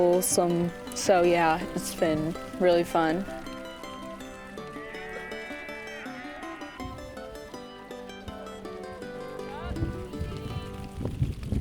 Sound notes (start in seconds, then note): 3.7 sheep bleating; 3.7 upbeat music